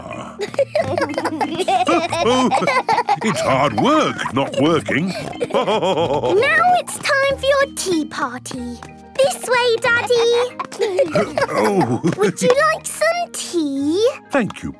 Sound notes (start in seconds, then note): 0.3 giggling; 5.5 laughing